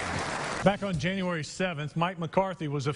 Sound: applause

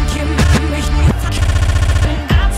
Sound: stuttering

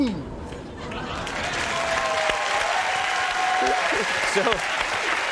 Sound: audience applauding

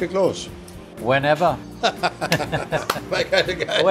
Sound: both laugh

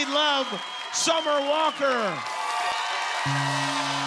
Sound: applause

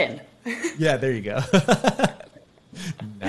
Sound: chuckles

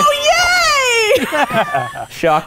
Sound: laughing

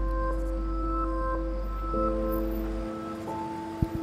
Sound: car approaching

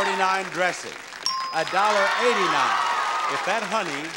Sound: bell ringing; bell dinging

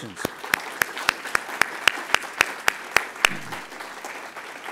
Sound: crowd applauding

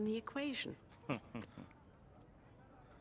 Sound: laughs

